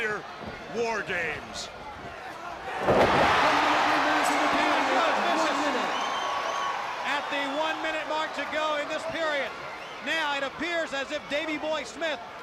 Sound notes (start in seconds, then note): 2.1 crowd cheering; 6.3 crowd cheering